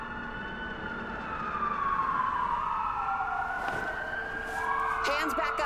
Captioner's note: police sirens wailing